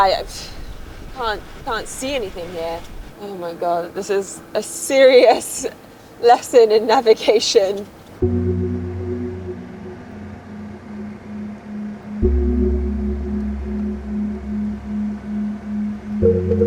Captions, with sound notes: But yeah, I can't see anything here. Oh my God, this is a serious lesson in navigation. (gentle music) (vehicle engine whirring)